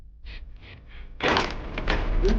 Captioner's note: plug snaps; Kellogg whirring; electricity buzzing